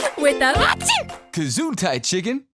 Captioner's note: sneezes